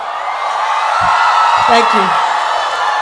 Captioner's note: attendees applauding and cheering